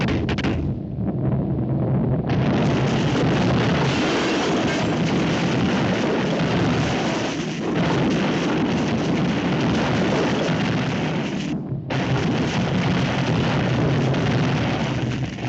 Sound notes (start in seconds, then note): 0.1 fists thudding; 4.1 glass shattering